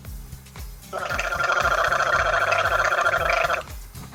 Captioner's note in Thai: เสียงกลั้วคอ